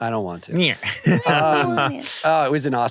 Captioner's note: laughs